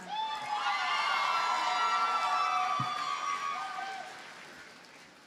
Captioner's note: audience cheers and applauds